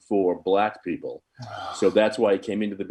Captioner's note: sighing